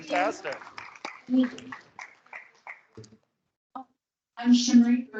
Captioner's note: students applauding